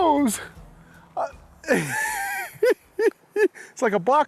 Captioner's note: giggling